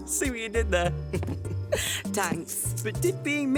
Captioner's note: chuckling